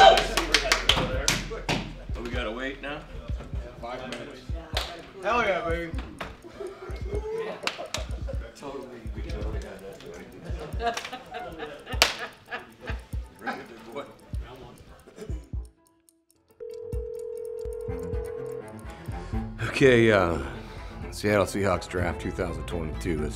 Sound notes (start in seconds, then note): 4.4 clock ticking; 6.9 clock ticking; 16.6 phone ringing; 17.8 dramatic music